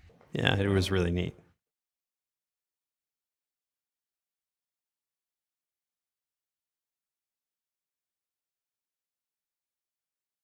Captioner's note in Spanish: sin audio